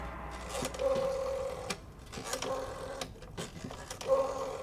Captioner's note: tense music continues; dial whirring